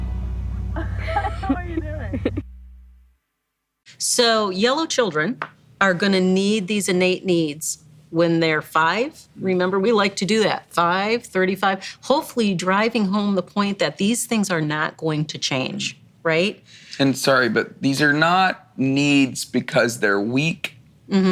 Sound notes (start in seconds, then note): 0.7 laughs